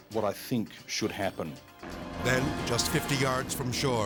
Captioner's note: helicopter whirring